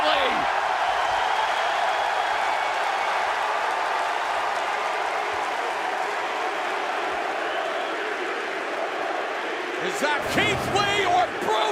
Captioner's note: crowd cheering